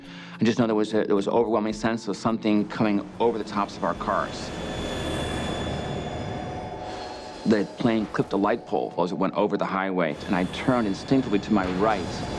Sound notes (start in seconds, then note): 4.4 jet thundering